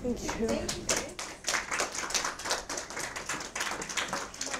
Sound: audience claps

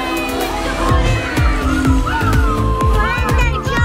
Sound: birds cawking

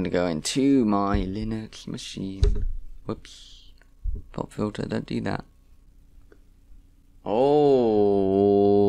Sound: sing-song; hits pop filter

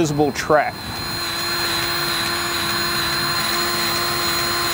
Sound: grease gun revving

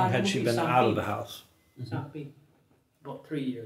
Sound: speaks in foreign language

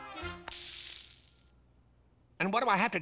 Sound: sizzles

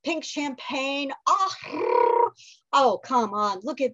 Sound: trills

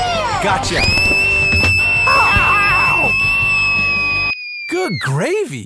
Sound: Muffin screams

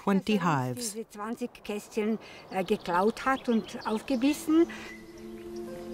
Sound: speaking in foreign language

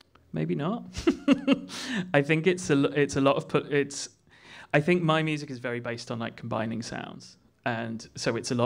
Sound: laughs

